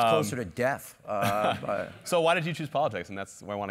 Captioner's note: laugh